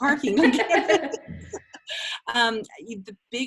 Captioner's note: laughing